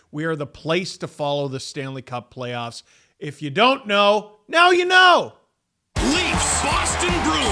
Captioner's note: screaming